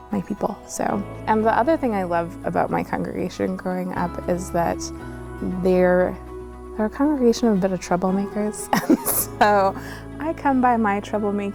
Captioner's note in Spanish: ríe